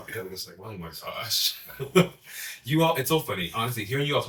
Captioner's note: laughs